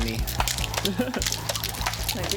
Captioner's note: laughs